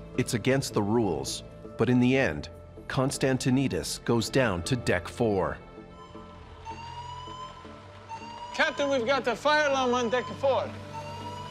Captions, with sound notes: - It's against the rules, but in the end Konstantinidis goes down to deck four. (fire alarm wails) - Captain we've got the fire alarm on deck four.